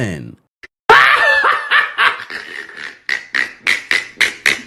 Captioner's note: hysterical laughing